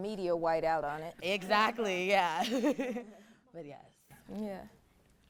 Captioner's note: laughs